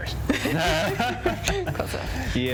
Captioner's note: both laugh